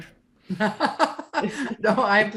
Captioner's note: laughing